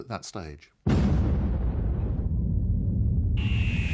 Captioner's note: deep boom